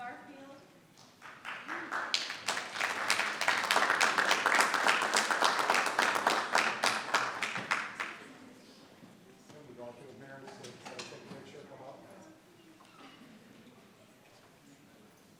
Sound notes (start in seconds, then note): 1.0 audience clapping; 10.0 people chattering